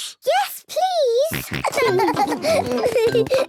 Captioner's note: snorting and giggling; giggling